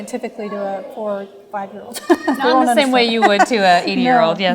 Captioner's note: laughter